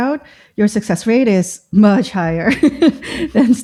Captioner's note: laughter